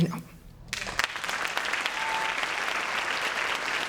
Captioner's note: applause